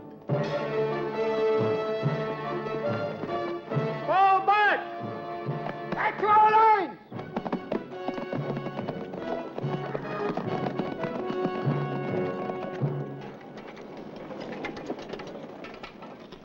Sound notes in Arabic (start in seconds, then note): 0.0 موسيقى مشوقة; 8.1 ضربات حوافر; 8.1 موسيقى درامية